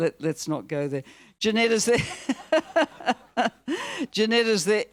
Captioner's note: laughs; audience laughing; laughs